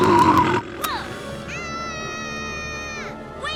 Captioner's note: Max screams